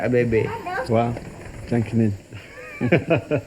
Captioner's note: speaking in foreign language